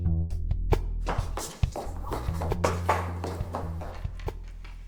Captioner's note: upbeat music; running steps while murmuring